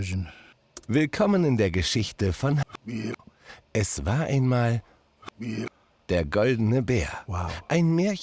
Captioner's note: voice speaks german